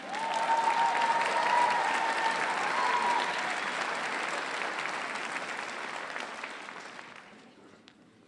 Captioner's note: applause